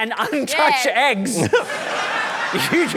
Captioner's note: laughter